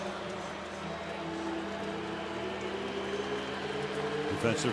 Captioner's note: pa announcement